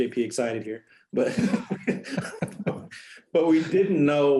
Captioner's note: laughter